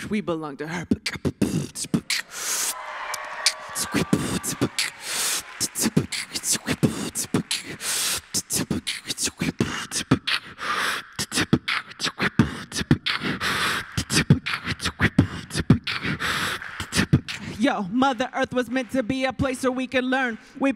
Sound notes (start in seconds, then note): 0.6 rap beat with mic; 2.2 applause